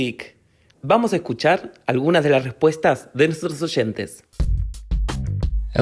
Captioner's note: speaking Spanish